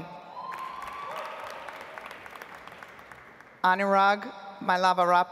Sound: audience applauds

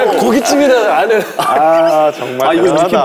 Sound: laugh

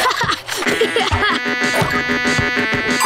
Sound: laughing; arcade noises

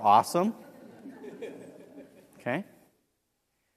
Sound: laugh

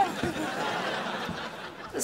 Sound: laughing

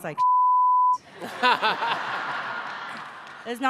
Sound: laughter

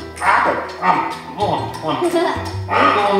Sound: munching

